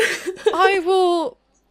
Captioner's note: laughter